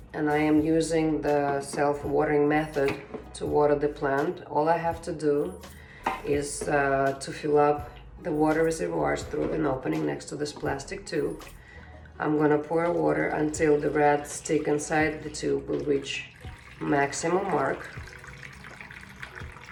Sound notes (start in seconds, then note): 16.6 water pours